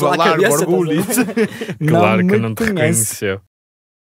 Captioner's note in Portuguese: risos